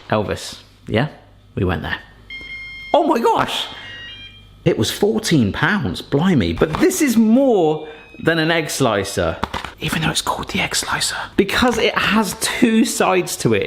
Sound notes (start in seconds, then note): 2.2 appliance beeping